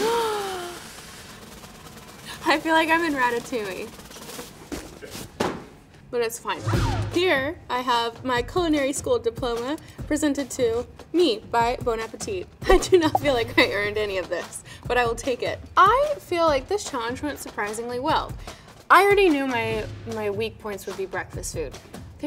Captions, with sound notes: [Madelyn gasps] I feel like I'm in Ratatouille. [suspenseful drum roll] [hat clatters to ground] But it's fine. Here, I have my culinary school diploma presented to me, by Bon Appetit. I do not feel like I earned any of this, but I will take it. I feel like this challenge went surprisingly well. I already knew my, my weak points would be breakfast food.